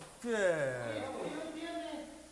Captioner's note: Eric groans; wrestlers speaking in Spanish